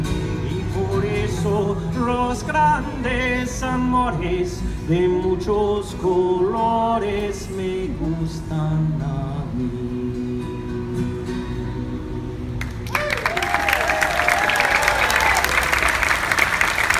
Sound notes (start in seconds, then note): 12.6 applause